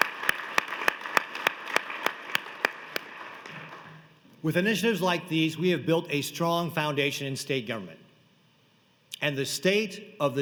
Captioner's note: applause